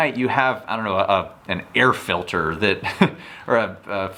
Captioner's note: chuckles